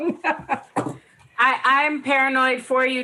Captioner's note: laughs